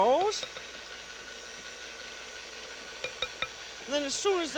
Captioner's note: whirring continues